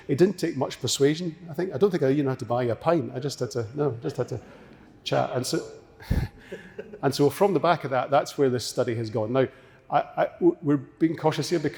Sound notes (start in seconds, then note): 4.4 audience laughing